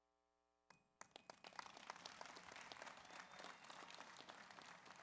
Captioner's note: audience applauds